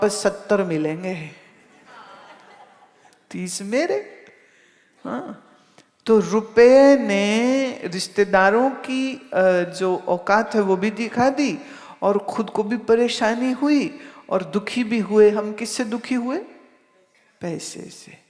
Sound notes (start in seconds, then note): 1.8 audience laughs